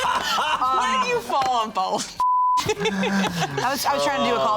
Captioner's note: all laughing; beep